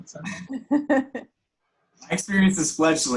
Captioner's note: laughs